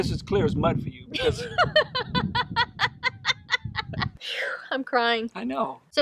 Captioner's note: laughs